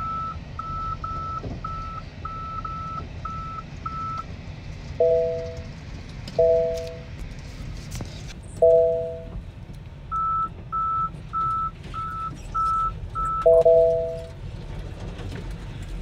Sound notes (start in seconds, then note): 6.3 louder Tesla safety noises; 14.5 scratching of tumbles on car